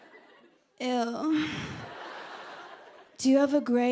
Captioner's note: laughter